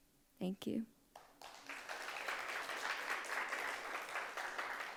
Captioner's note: audience applauds